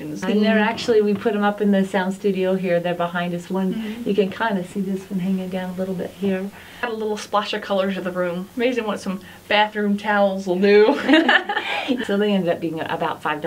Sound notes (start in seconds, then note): 10.9 laughter